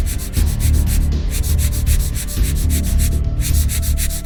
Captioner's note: scratch scratch scratch scratch